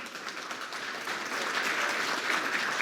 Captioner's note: applause